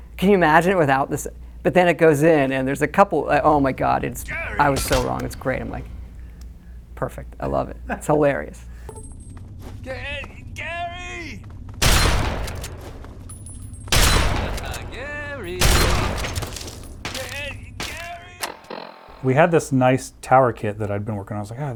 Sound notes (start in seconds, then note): 11.9 gun firing; 15.0 laughing